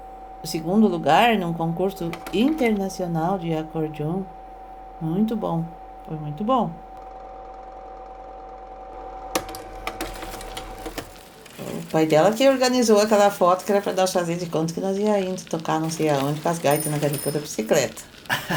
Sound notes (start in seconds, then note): 9.7 noise of bicycle riding